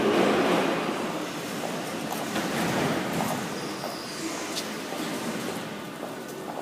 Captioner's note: closing doors